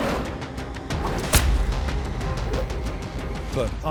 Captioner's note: whip cracking